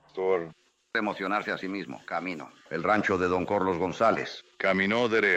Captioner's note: in spanish